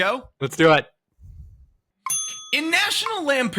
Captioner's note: bell Dings